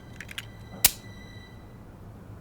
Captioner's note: clicks